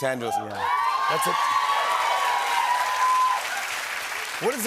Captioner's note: cheers and applause